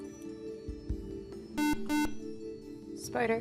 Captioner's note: buzzer